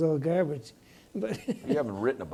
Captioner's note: laughs